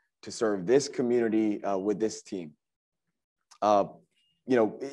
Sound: none

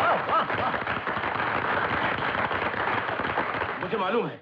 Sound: crowd Applauding

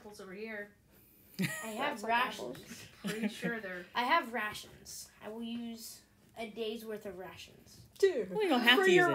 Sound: laughter

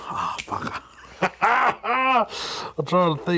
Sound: laughs

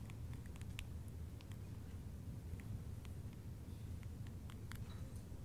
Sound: clicking

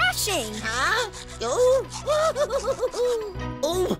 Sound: giggling

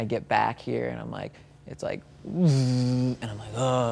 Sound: imitates humming

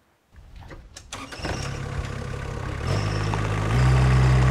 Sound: tractor rumbles

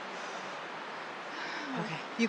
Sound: breathing heavily

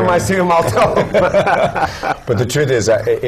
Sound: laugh

